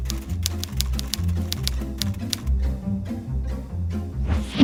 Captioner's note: keyboard clacks